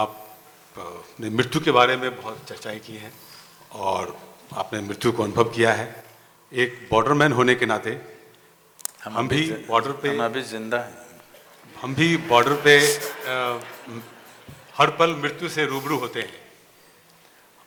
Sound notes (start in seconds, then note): 11.5 laughter